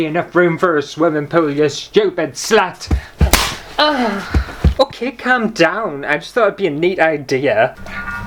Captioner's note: slap!